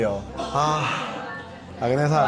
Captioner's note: sigh